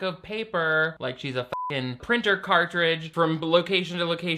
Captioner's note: beep